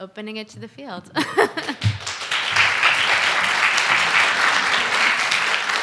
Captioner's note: applause